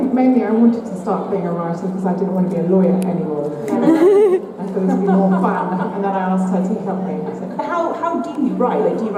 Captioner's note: laughter